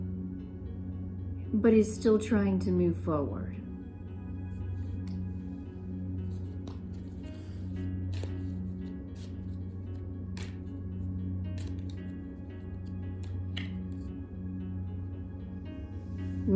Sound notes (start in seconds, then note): 6.2 cards shuffling